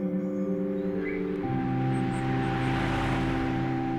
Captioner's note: car whooshing